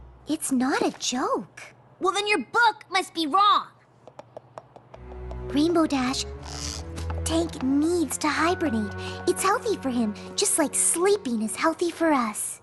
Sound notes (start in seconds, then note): none